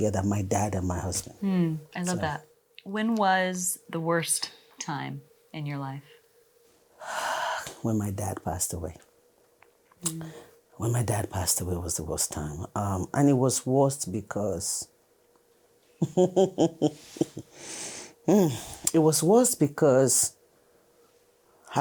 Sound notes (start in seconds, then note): 16.0 laughs softly